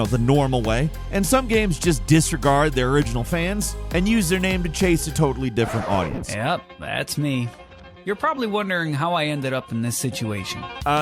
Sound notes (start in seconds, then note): 5.5 record player scratches